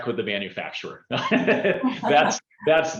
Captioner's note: chuckles